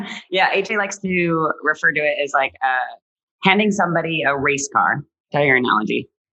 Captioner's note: laughs